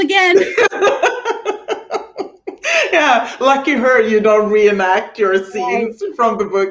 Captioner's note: laughing